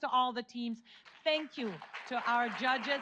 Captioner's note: audience applauds